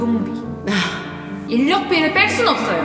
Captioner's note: sigh